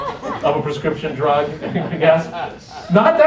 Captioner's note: laughter